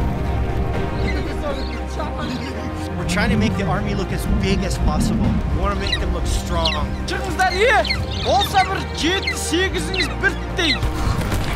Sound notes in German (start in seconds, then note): 2.7 Gelächter; 7.4 Spricht in einer Fremdsprache